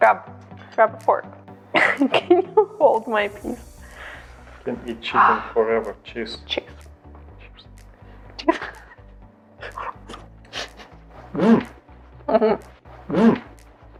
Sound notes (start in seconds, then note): 10.4 laughs